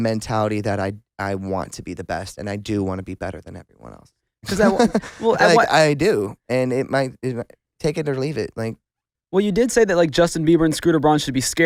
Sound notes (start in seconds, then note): 4.4 laughs